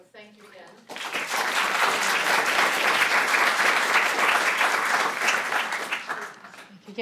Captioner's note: applause